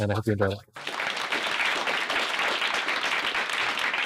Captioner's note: clapping